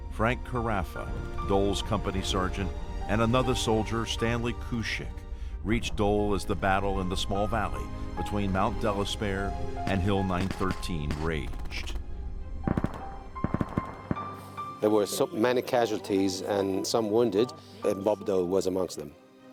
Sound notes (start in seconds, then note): 12.6 gunshots popping; 12.8 light instrumental music; 14.9 voiceover